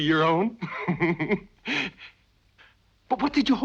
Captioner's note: Christian laughing